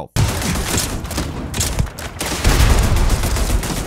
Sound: gun firing

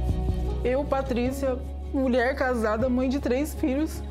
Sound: non-english speech

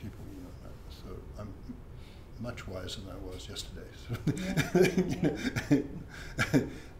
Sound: laughs

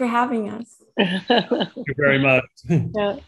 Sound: chuckles

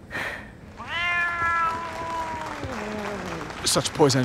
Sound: breathing heavily; meows

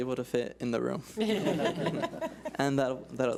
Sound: laughs

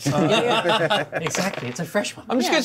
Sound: laughs

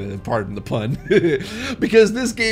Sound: laughs

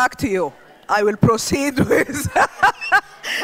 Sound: laughs

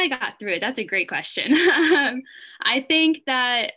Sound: laughs

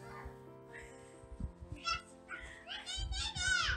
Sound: baby noises

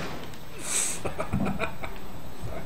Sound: laughing

